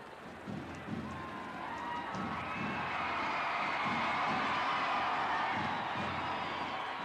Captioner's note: drums playing; audience cheers